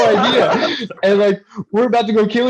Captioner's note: laughter